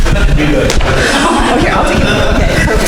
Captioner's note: crowd chattering